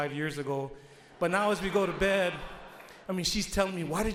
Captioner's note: audience laughs